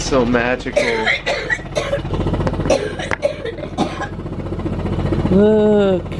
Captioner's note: coughing in background